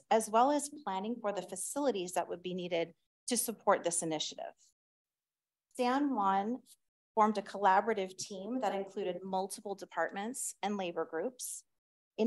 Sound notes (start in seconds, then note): none